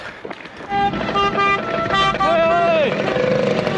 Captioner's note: car honking